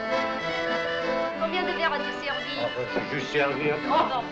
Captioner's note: French